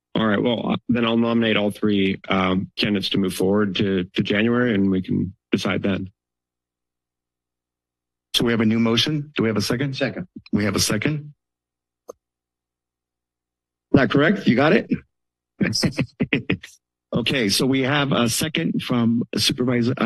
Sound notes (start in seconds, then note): 15.6 laugh